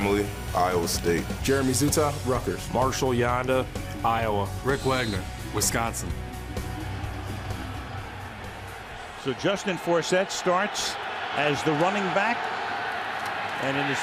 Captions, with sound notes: Kelechi Osemele, Iowa State. Jeremy Zuttah, Rutgers. Marshal Yanda, Iowa. Rick Wagner, Wisconsin. [rock music] [crowd cheering] So Justin Forsett starts as the running back